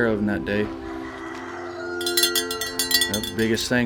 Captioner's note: rooster crows; bell ringing